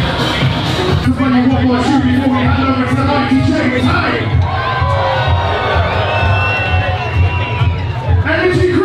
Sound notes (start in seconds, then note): 5.5 crowd cheering